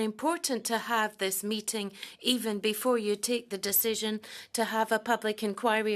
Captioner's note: speaking French